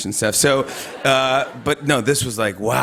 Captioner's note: laughter